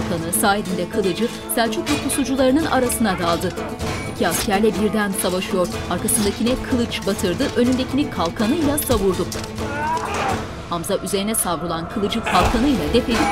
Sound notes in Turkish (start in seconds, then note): 6.0 Kılıç sesleri; 6.0 Müzik - Aksiyon